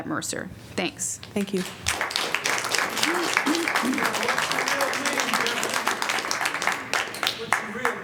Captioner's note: applause